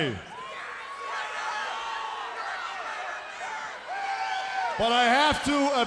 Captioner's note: crowd chatter